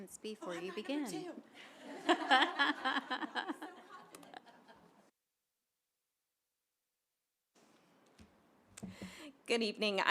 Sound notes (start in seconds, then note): 1.6 laughter; 4.8 silence